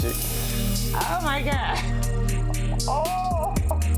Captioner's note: downbeat music; laughing